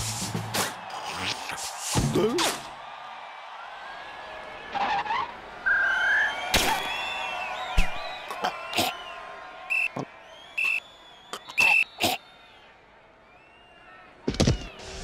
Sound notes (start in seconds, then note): 5.6 weak whistle; 8.1 gags; 9.6 whistle; 11.3 gags